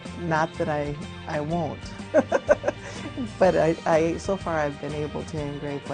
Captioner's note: laughs